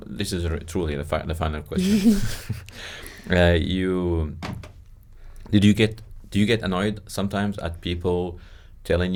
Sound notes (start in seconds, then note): 1.8 both laugh